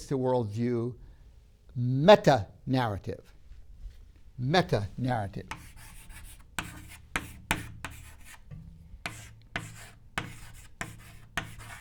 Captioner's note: chalk scraping